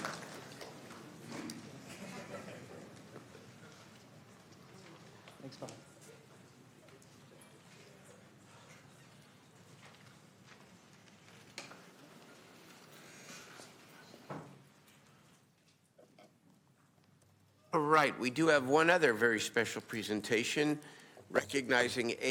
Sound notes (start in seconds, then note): 0.0 applause